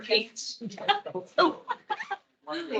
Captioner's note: attendees laughing